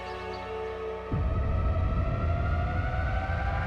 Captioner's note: atmospheric sound